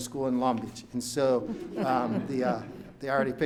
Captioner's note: audience laughs